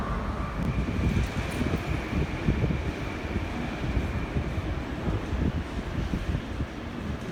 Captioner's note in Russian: прибытие поезда на станцию